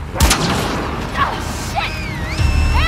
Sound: urgent whistles!!

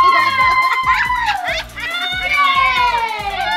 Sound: laughter begins

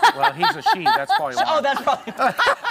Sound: laughter

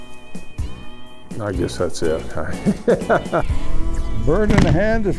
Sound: laughs

